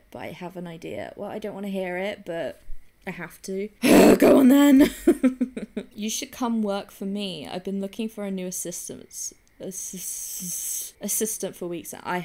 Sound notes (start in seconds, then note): 3.8 sighs; 4.7 laughs